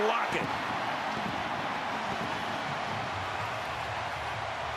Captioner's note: cheering